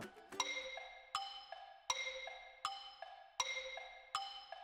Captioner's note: clock ticking